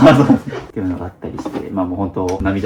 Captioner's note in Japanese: 笑い